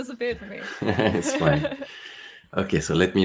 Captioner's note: all chuckling